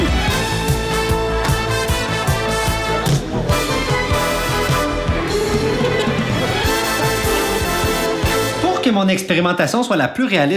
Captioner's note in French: rires